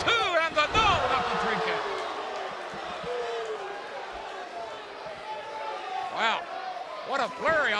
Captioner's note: crowd cheering